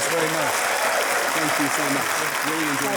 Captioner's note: audience applauding